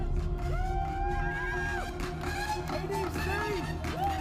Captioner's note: cheering